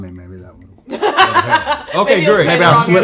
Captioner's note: laughing